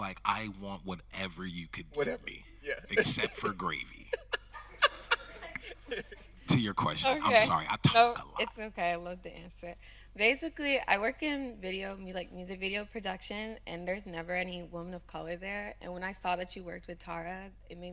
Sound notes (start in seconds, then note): 2.6 laughing